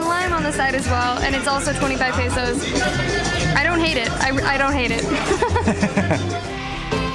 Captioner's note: laughter